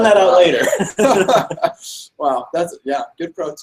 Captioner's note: laughs